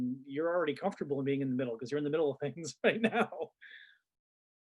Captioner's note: chuckles